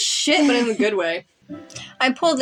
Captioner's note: chuckle